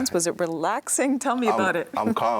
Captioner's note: laughs